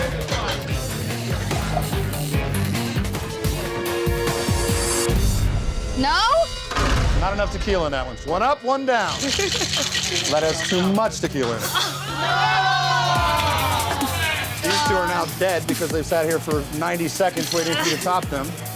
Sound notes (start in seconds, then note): 0.3 intense music; 9.1 chuckles